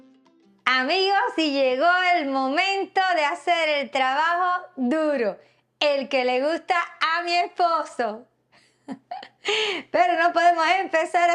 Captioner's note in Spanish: risas